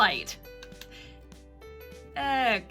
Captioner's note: light clicking on